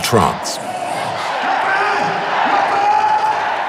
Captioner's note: foreign language